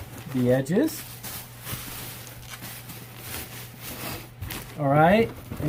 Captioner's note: crinkling paper